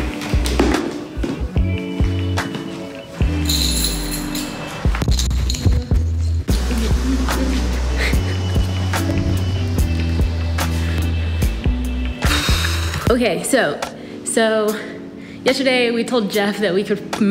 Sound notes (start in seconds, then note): 0.0 mellow music; 0.0 shoes banging; 3.3 keys clanging; 6.7 mellow music; 12.2 sighs